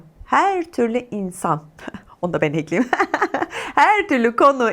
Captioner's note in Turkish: kahkaha